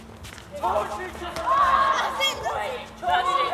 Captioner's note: goal cheers